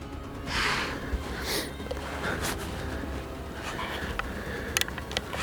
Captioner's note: breathing heavily; suspensful music